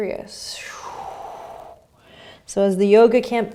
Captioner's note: exhaling